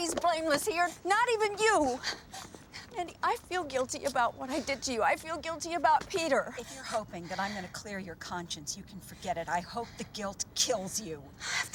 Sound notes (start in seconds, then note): none